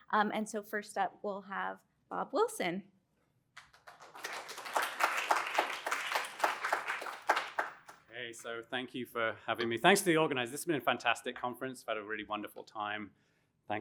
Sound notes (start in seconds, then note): 3.6 applause